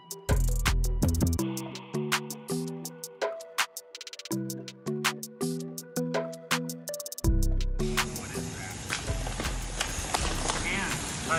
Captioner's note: speaking French